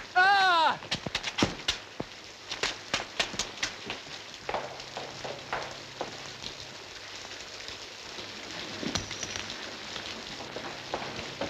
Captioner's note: Max shouts